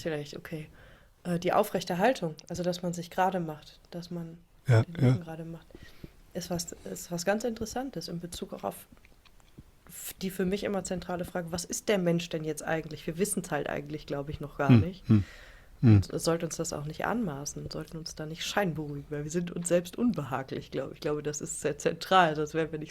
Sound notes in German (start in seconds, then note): 15.8 räuspern